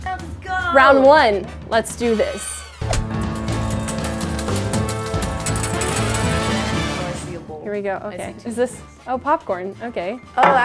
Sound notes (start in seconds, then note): 2.8 upbeat music; 3.3 coins clinking